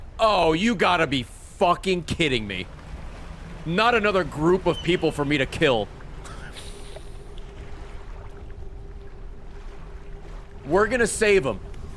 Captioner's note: laughs